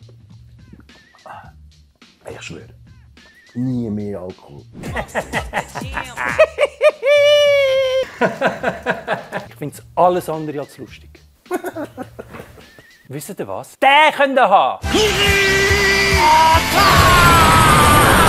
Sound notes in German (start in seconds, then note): 4.8 lacht; 11.4 lacht; 14.7 Heftige Anime-Geräusche